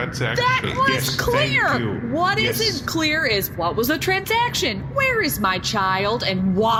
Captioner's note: shouting